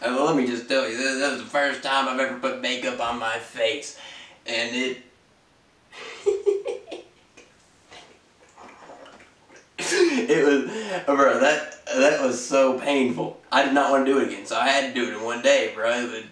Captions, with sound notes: Ah, let me just tell you t-that was the first time I've ever put makeup on my face and it... (laughs) it was... bruh that... that was so painful I did not wanna do it again so I had to do it in one day bruh.